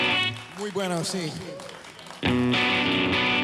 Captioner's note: guitar twangs; guitarist speaks foreign language; upbeat bluesy music